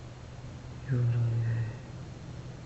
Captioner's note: foregin language